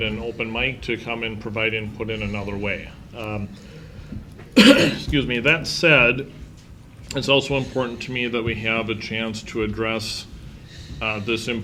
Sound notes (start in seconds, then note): 4.5 clears throat